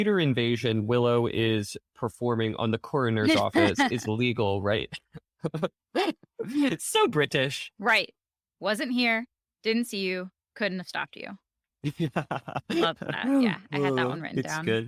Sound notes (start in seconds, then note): 5.6 chuckling; 11.9 more snickering